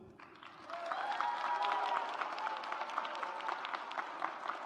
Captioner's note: audience applauds